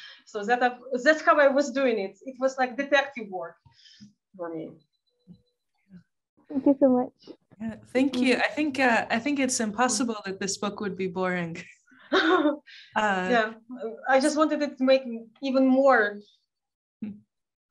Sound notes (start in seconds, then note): 12.1 chuckling